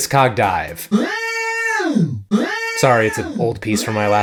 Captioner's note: alarm blasting